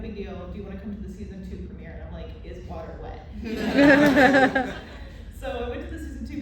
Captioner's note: laughter